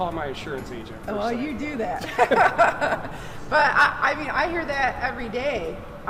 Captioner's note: laughing